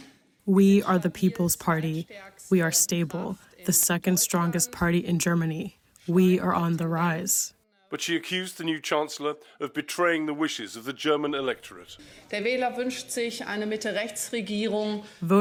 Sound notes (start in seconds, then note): 1.3 through translator